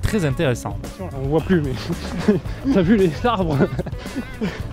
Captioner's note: laughs